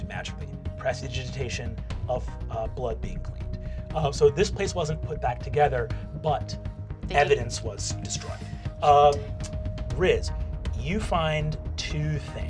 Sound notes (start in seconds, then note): none